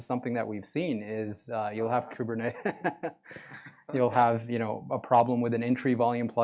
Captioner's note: laughter